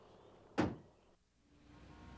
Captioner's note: car door closes